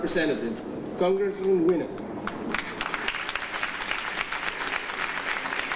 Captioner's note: audience applauding